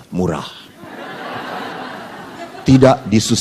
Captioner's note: audience laughs